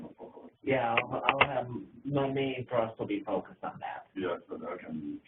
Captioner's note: continued speaking in the background